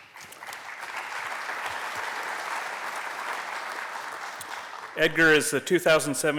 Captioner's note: applause